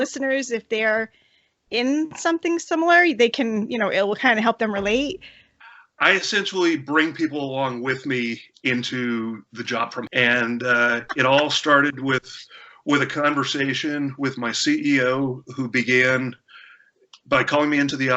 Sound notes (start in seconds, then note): 10.3 laughter; 10.8 beep!